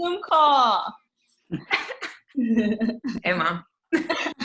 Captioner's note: women laugh